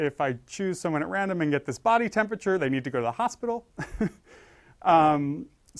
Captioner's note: laugh